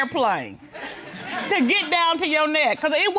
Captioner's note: audience laughing